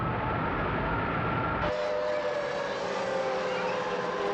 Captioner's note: air Raid Siren Continues